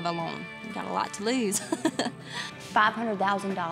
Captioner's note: chuckles